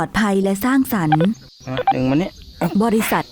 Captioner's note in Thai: เสียงกดปุ่ม